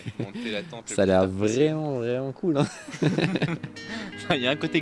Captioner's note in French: rires